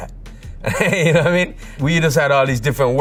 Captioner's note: laughs